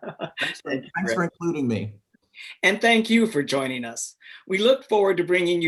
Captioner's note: laughing